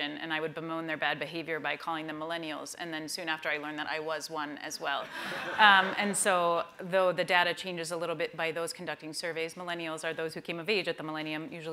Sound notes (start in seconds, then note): 5.1 laughter